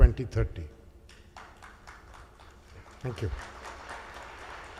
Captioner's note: audience applauds